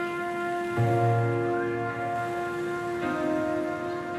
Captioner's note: children chattering